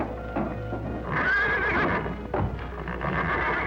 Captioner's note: whinnying